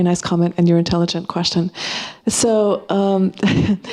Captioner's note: chuckling